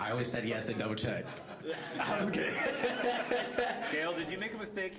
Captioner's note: laughing